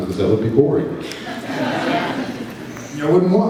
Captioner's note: laughs